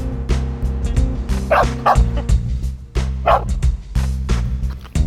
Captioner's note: dog barking